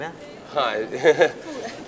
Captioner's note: Rishi giggling